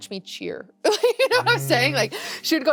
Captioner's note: laughs